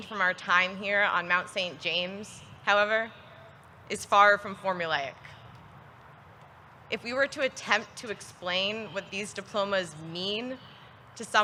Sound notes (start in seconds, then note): none